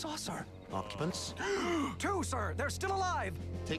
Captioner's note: groaning